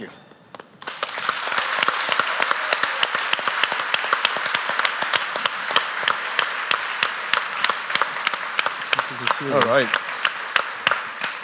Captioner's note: applause